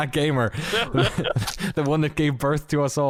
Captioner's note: laughter